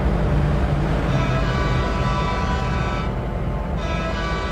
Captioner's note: horn blasts